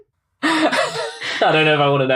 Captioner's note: laughs